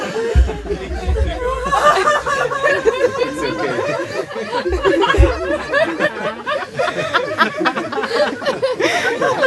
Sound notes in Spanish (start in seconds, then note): 1.7 risas; 2.5 risas y sollozos